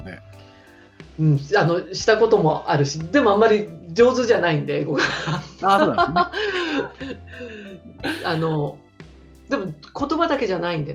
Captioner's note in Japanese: 英語